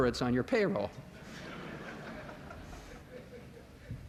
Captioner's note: laughter